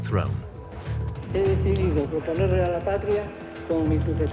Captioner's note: speaking Spanish